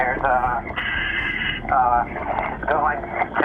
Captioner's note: underwater breathing